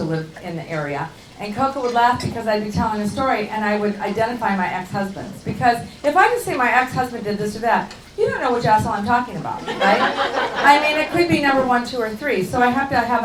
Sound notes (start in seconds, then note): 9.6 laughing